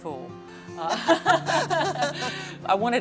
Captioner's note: laughter